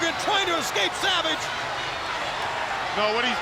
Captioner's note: crowd cheering